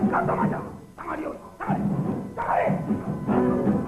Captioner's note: harsh chastizing; yelling at him to leave